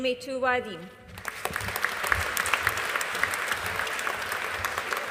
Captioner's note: audience applauding